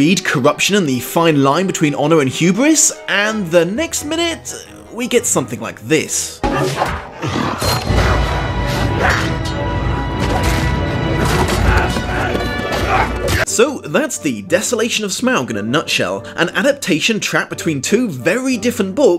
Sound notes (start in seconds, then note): 6.4 boing-clank; 11.2 Orcs grunt